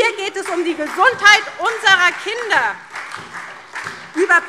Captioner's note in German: Beifall SPD und DIE LINKE